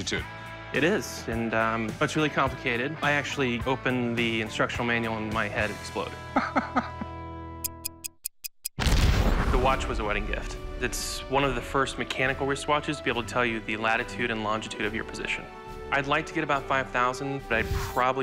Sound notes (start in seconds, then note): 6.4 laughs; 7.6 ticking